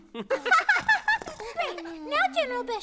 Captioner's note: all giggling